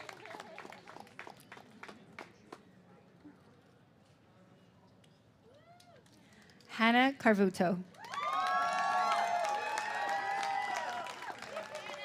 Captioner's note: applause